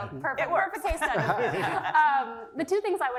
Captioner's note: laugh